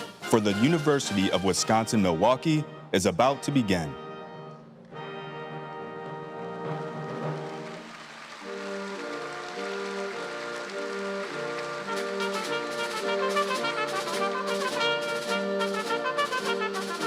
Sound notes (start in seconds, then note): 9.0 audience applauds; 9.0 triumphant music